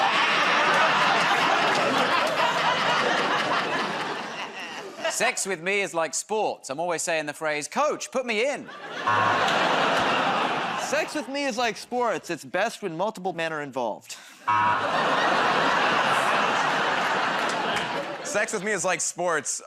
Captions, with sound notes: [ Laughter, buzzer ] -[ Laughs ] -Sex with me is like sports. I'm always saying the phrase "Coach, put me in." [ Laughter, buzzer ] -Sex with me is like sports. It's best when multiple men are involved. [ Laughter, buzzer ] -Sex with me is like sports.